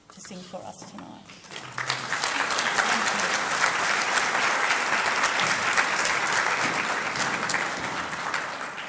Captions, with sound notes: to sing for us tonight. (audience applauds)